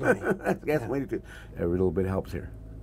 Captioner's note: laughter